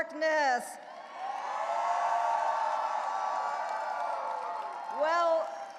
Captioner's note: audience cheering and applauding